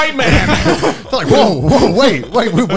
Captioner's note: laughing